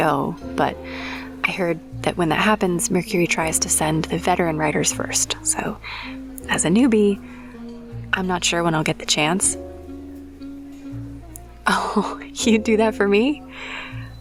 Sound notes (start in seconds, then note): 10.9 laughs